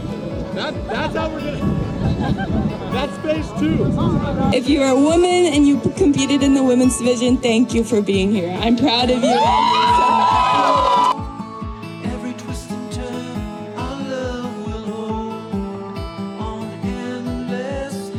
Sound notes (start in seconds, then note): 9.2 cheering; 11.4 guitar music